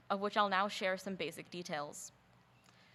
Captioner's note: none